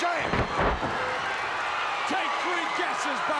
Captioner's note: crowd cheering